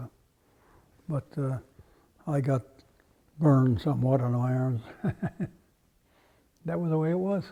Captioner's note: laugh